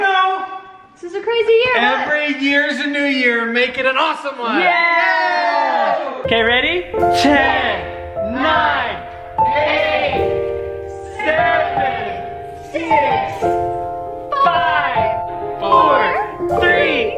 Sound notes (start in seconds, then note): 4.5 cheering; 5.9 thoughtful music